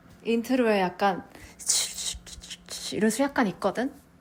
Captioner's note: shh shh shh shh